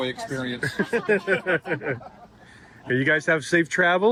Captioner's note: everyone laughs